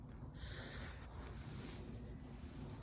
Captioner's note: inhales shakily, softly; sighs lightly